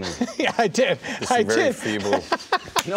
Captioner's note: laughing